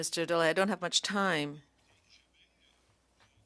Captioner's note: speaking French